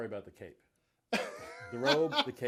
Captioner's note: laughs